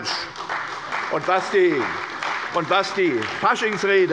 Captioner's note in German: Beifall bei Abgeordneten der CDU